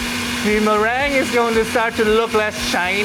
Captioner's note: mixer hums